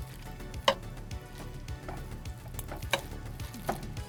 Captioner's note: pot clinking